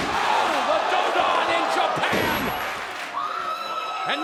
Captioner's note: speaks Japanese